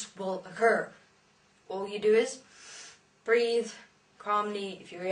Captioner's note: inhale